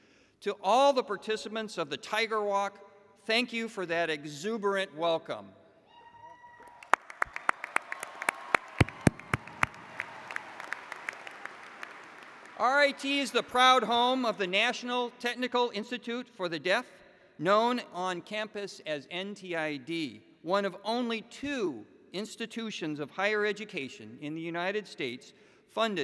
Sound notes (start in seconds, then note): 6.6 applause